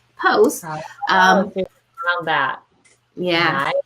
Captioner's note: mumbling